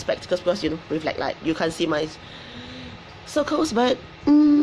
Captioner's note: breathes deeply